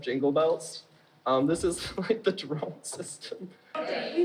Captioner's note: laughs